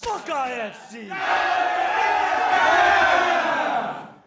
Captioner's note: guys yelling